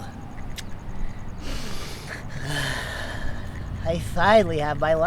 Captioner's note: man sniffing